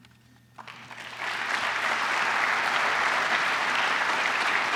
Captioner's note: applause